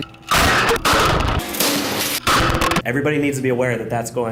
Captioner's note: loud bangs